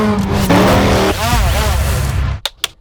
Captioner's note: drone buzzing; film slate clapping